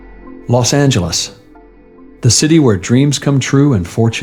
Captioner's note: voice-over